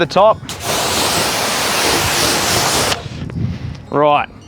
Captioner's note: water splashing